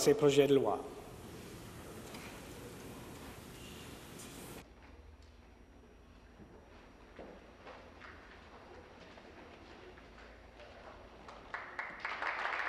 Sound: speaking in French

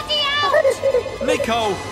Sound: Boggart chuckling

